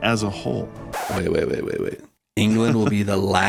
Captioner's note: record scratch, music ends